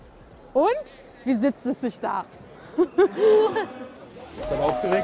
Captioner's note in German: lachend